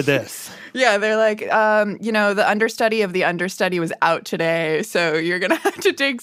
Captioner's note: laughs